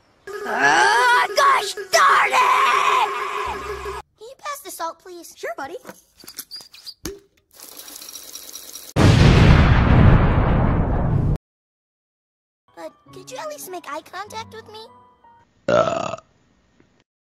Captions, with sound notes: Erruhhh GOSH DARN IIIIIIIIT! Can you pass the salt please? Sure buddy. But, could you at least make eye contact with me? *Belch*